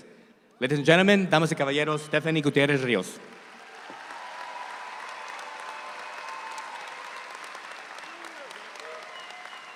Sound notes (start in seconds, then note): 1.3 speaks in Spanish; 3.2 audience applauds